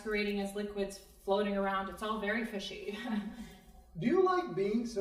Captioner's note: scoffs